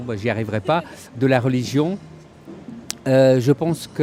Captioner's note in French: rires